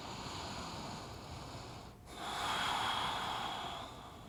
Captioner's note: breathing